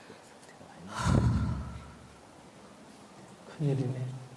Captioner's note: questioner Sigh